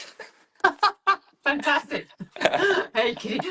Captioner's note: laughs